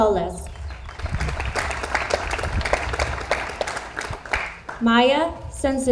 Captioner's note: audience applauds